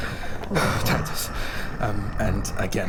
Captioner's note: panting